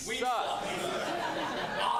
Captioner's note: laughter